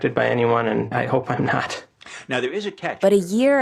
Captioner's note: chuckles